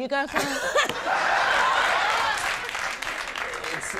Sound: audience laughing

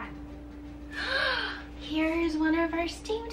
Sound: gasps

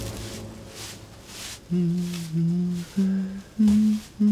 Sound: humming

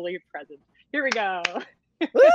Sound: Deborah claps

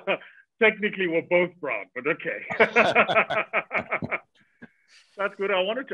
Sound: Vusi laughs; both laugh

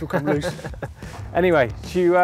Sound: laughing

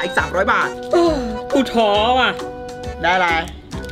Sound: sighs

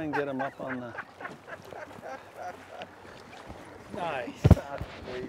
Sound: laughing

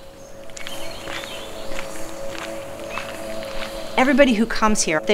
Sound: birds chirping

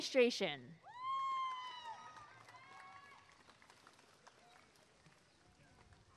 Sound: applause and cheering

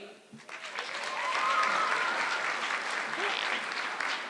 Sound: audience clapping

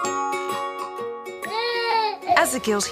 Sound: baby crying

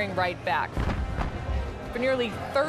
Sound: artillery fire

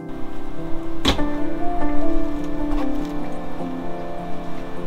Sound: door clicks shut

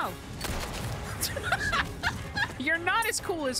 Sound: laughter

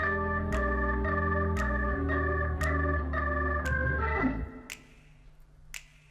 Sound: jazzy music; fingers snapping rhythmically

